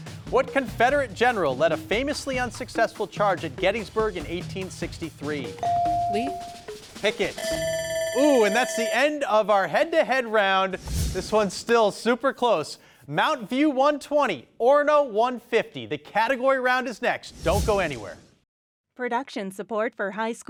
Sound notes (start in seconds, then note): 5.6 bell dings; 7.4 buzzer beeps